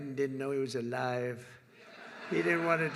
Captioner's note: laughter